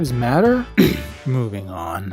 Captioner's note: clears throat